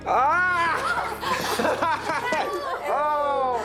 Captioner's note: laughing